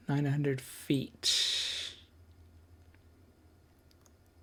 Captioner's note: silence